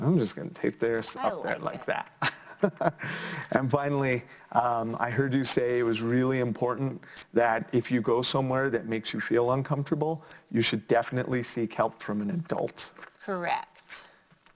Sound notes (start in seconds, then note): 2.5 laughs